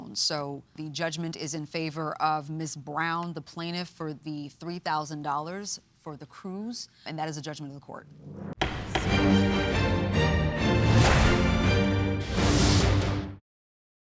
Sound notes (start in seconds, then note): 8.2 dramatic music; 8.6 gavel banging